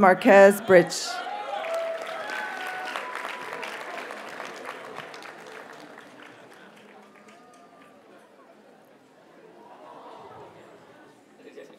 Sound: audience cheers and applauds

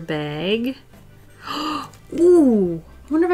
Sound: gasps

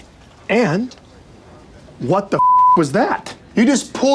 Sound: beeps

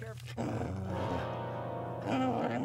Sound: muffled dog growling

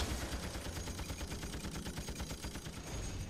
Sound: gun banging

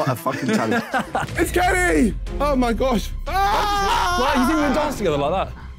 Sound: screaming

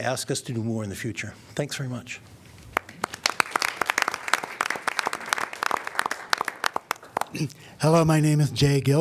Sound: applause

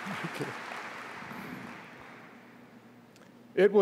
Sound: applause

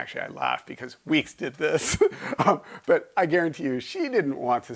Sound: laughing

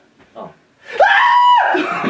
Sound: screams

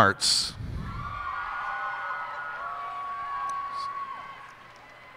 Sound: cheers and applause

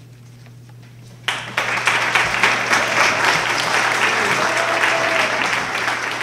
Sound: applause

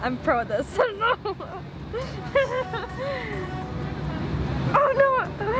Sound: laughs

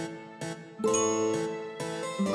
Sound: ding

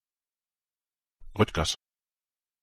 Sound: fast Pronunciation

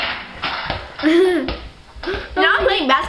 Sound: laughing

